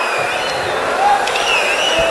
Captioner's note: wild applause and cheering for 22 seconds